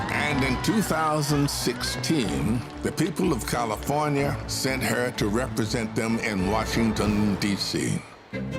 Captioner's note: cheers and applause